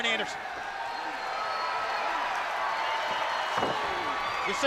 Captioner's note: crowd cheering